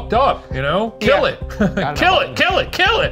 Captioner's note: laughs